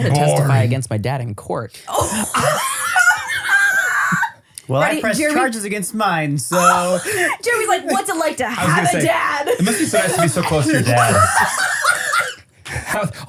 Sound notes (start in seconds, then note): 1.9 laugh; 11.3 everybody laughs